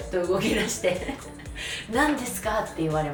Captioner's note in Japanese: 笑い